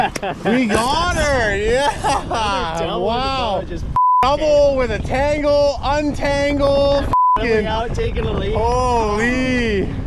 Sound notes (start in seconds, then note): 1.6 laughs; 4.0 beep; 7.1 beep